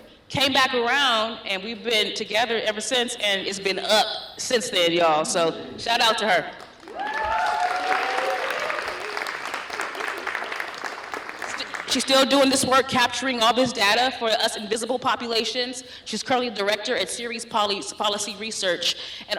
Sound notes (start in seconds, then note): 6.7 cheering, applause